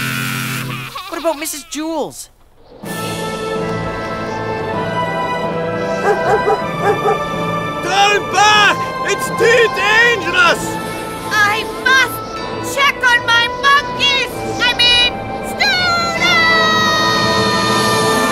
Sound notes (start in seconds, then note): 2.4 wind gusts; 5.8 dog barks